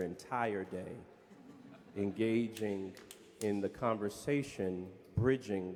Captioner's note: laughing